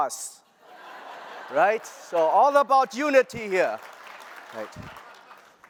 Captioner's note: laughter